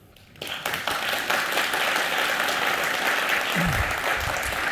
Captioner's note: applause